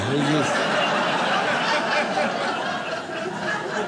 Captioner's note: audience laughs